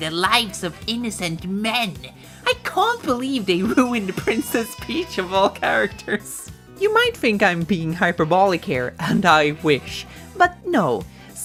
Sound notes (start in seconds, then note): 3.3 laughs and breaks character